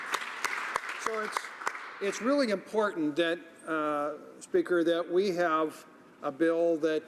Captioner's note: some Applause